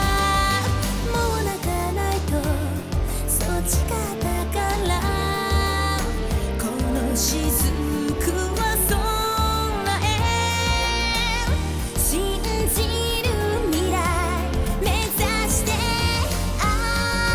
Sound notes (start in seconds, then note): none